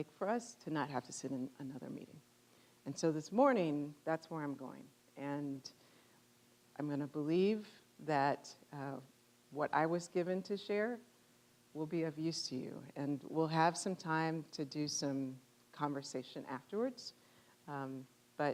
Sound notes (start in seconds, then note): none